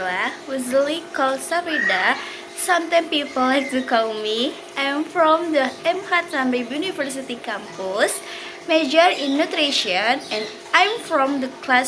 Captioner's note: ketawa